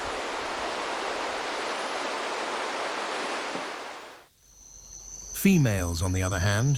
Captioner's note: birds chirping